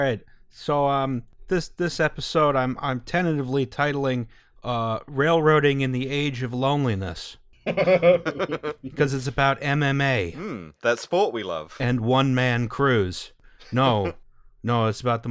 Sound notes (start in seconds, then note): 7.6 laughter